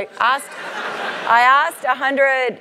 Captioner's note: laugh